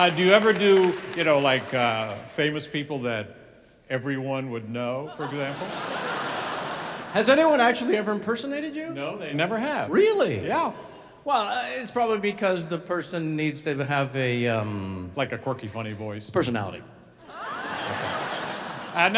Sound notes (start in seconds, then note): 5.0 audience laughing; 17.2 audience laughing